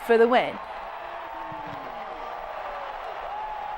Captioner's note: crowd cheering